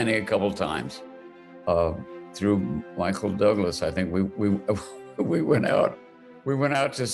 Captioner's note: laughing